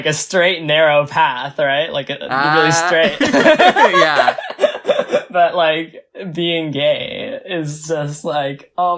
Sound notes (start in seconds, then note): 0.0 laughs; 2.3 both laugh; 5.2 laughs